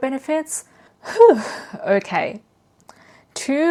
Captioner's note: sighs